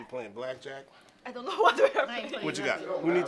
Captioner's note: laughing